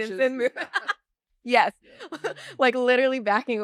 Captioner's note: laugh